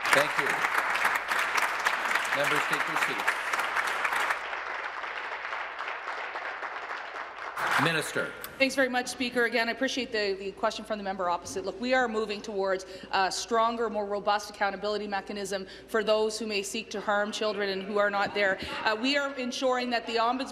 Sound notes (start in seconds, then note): 0.0 applause